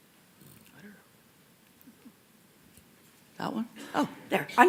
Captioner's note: whispering